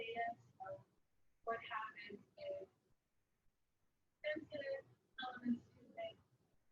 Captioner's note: speaking away from mike